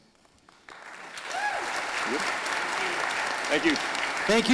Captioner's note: audience applauding